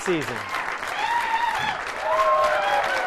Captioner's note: cheering